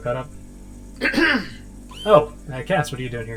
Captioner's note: Cast clears his throat